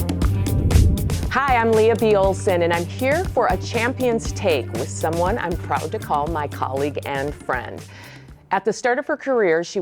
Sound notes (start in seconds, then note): 0.1 air whooshing